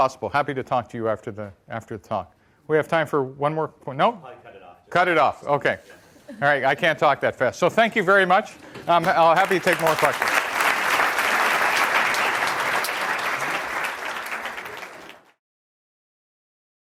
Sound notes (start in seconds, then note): 10.5 audience clapping